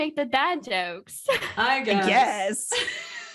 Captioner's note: laughter